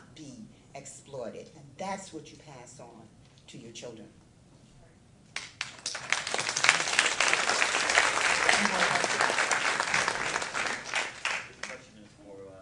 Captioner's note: clapping